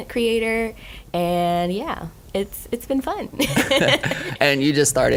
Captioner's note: laughing